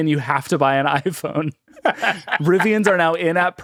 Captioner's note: laughing